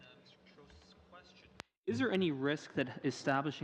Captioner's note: speaking French